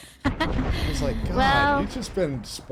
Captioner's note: laughing